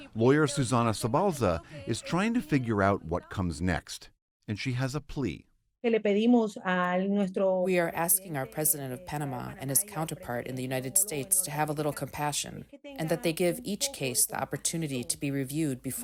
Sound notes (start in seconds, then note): 8.1 through translator